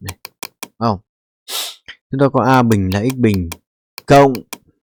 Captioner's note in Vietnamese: khịt mũi